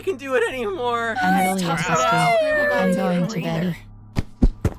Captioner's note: complaining